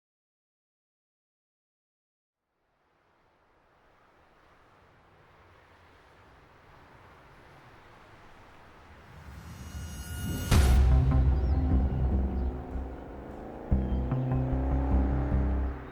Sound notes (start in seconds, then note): 3.0 distant highway noise; 9.1 suspenseful music; 10.4 car engine revs